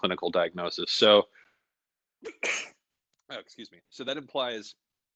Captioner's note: sneezes